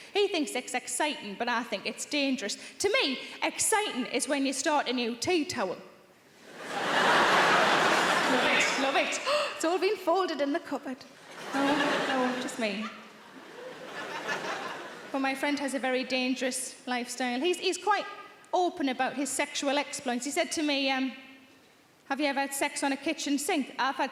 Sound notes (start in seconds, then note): 6.4 audience laughing; 9.2 gasps; 13.0 audience laughing